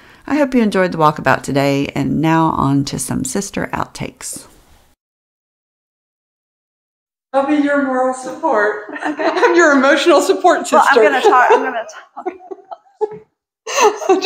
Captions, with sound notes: I hope you enjoyed the Walkabout today and now on to some sister outtakes. I'll be your moral support. Okay I'm your emotional support sister. Well I'm gonna talk I'm gonna talk [Laughing]